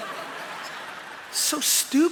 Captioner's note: laughter